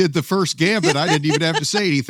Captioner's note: laughs